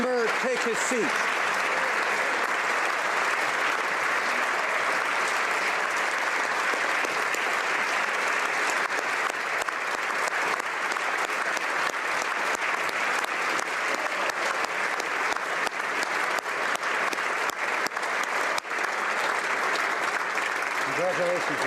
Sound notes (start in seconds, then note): 1.8 applause; 5.5 applause; 21.4 applause